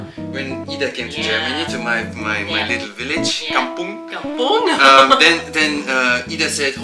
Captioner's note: laugh